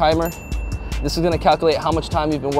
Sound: bell dings

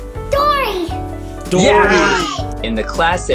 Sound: cheers in appraisal

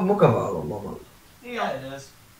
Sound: agreement noises

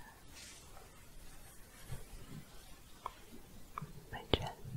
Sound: shuffling

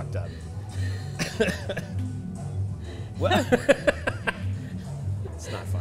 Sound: laughs

